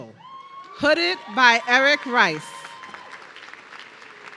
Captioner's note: audience cheering